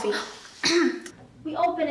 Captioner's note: clears throat